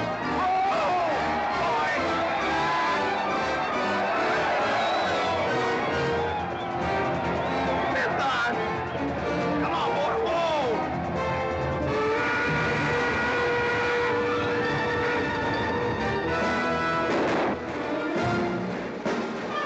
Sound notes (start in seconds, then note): 2.2 crowd yelling; 11.8 train whistle blaring; 12.0 dramatic music; 17.0 gunshots